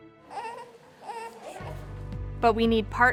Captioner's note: baby cooing